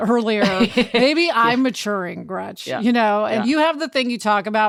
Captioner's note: laughing loudly